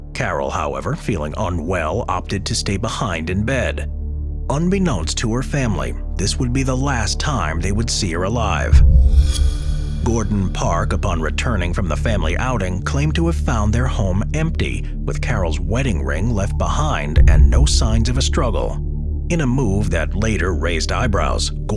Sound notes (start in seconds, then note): 8.7 transition whooshing